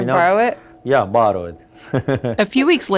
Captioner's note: laughs